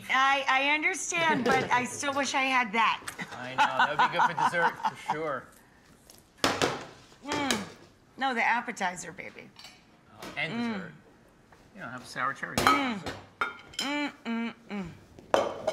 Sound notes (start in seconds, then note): 3.2 laughs